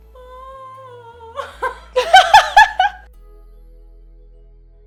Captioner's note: laughing; vocalizing; soft music